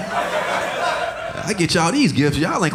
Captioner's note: audience laughing